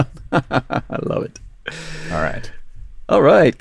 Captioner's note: laughs